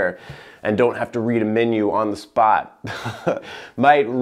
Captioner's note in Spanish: risas